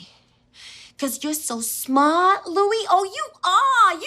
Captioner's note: mimicking Mona Lisa Vito